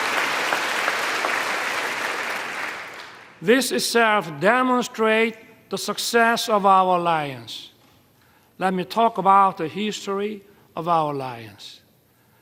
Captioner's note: applause